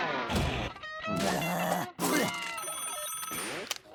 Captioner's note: spits; phone rings